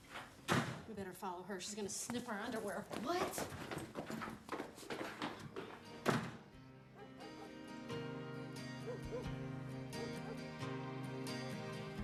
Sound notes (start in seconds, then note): 5.4 dog barking; 10.7 sighs